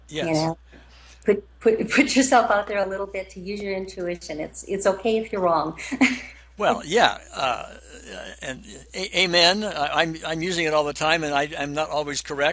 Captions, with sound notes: You know? - Yes. - Put yourself out there a little bit to use your intuition, it's okay if you're wrong. (laughs) - Well, yeah. And amen, I'm using it all the time and I'm not always correct